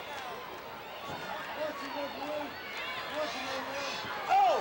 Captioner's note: wrestlers chattering